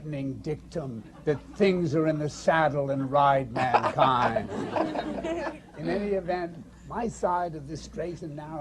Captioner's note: laughter